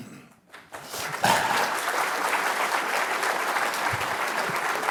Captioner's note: applause